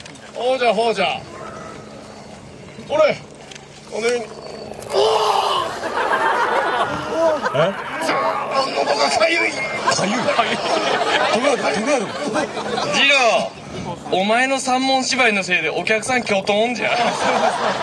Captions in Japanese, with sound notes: ほうじゃ ほうじゃ ほれ おーっ はぁー（客 笑・笑・笑） だぁー 喉がかゆい 利家＞かゆい？ 徳川殿 徳川殿 徳川殿 信長＞次郎!! 信長＞おまえの三文芝居のせいで お客さん キョトーンじゃ 家康＞さようですか（客 笑・笑・笑）